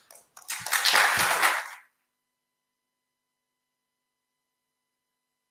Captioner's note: applause